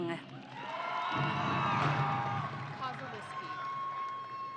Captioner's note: audience cheering